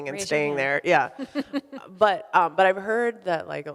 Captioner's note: laughs